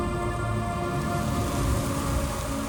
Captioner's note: rushing wind